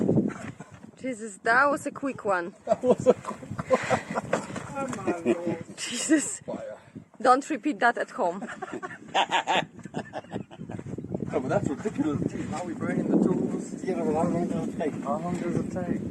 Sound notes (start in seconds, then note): 2.6 laughing; 8.3 laughing